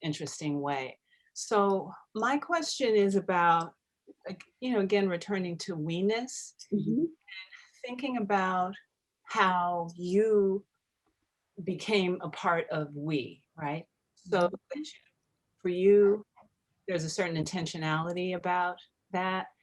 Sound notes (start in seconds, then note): none